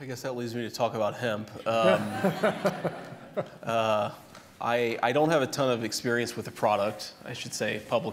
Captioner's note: laughter